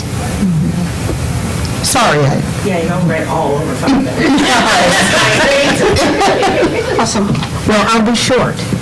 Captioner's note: laughter